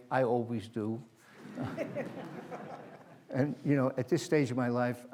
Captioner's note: laughter